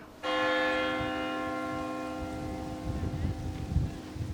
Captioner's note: bell tolls